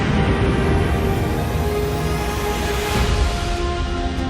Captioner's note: jet engine rumbling